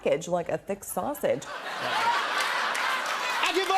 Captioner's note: laughter and applause